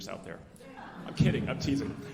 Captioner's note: alumni laughing